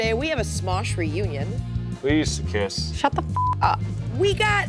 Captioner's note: beep